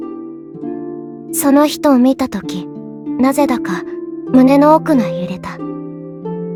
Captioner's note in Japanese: 語り